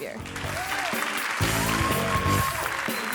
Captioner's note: audience applauds; upbeat music